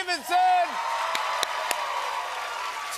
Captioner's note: cheers and applause